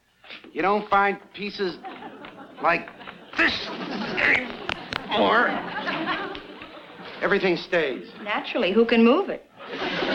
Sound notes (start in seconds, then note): 5.7 audience laughs